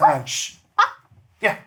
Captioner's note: barks